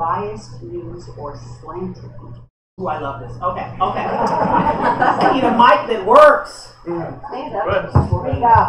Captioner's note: laughter